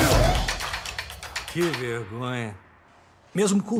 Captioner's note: guard in Russian; Booth in English